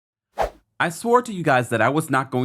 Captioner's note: whooshing intro